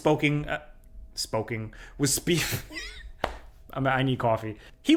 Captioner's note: laughs